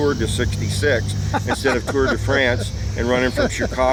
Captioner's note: laughs